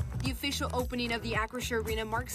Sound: nats of ribbon cutting

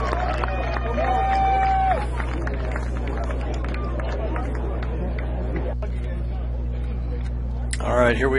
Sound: cheering

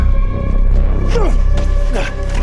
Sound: grunting

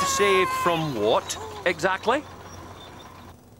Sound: crane sighing

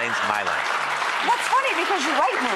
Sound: audience applauding

